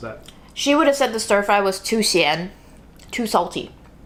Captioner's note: speaking Chinese